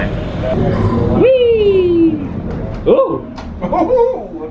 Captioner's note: jubilating